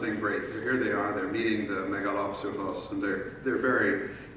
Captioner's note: speaking in foreign language